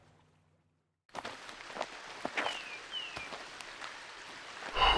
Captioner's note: ambience - wilderness